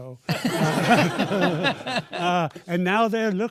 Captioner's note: laughter